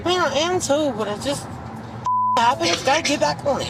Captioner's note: beep